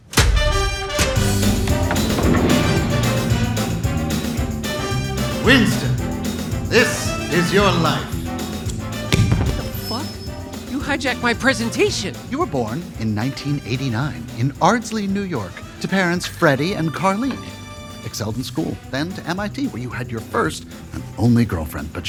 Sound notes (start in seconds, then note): 0.1 lively jazz music; 9.1 mic drops